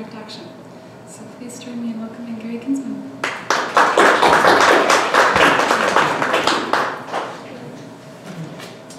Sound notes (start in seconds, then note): 3.2 applause